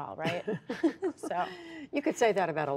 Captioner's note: laughter